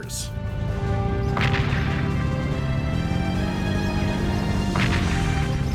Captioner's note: cannons booming